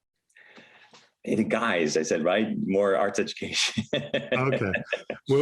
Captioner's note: laughs